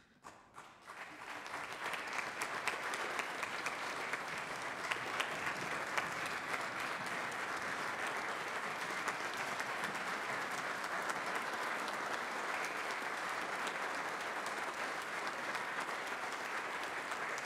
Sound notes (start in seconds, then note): 4.1 group applauds